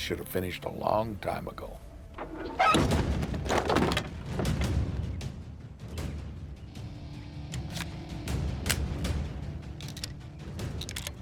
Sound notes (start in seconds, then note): 2.1 creaks open; 4.0 tense music